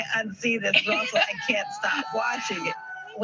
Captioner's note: laughs